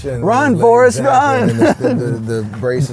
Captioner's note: laughs